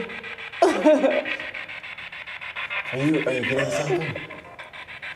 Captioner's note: Isabel crying